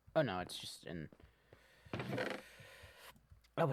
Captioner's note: inhale